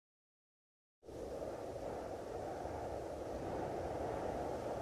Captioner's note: wind humming